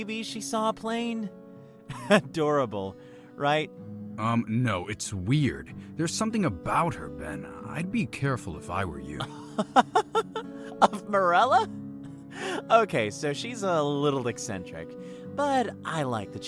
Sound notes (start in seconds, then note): 9.2 laughs